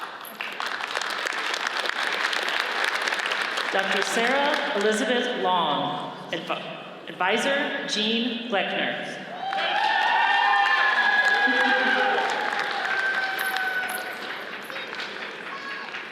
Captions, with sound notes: (audience applauds) Dr. Sarah Elizabeth Long, adviser Gene Gloeckner. (audience cheers and applauds)